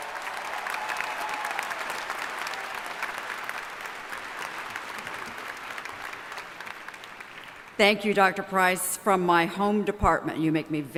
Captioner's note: applause